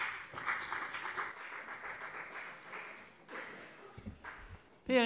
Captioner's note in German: Beifall bei der FDP